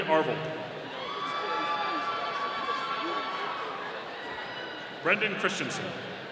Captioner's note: audience cheering